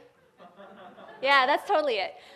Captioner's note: crowd laughs